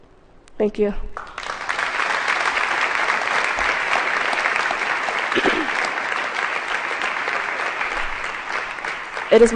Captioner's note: applause